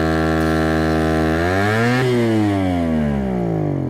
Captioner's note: pump sound dying